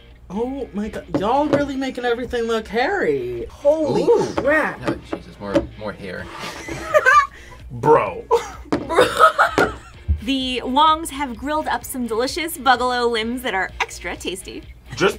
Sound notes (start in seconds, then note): 6.4 laughs